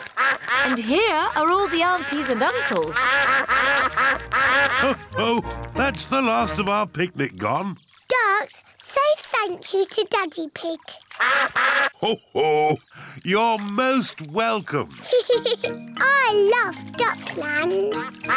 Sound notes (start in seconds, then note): 11.1 all quack; 15.0 giggles